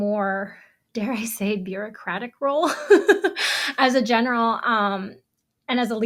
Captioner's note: laughs